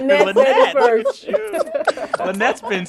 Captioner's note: laughter